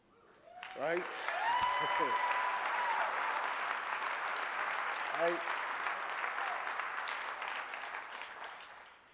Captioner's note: applause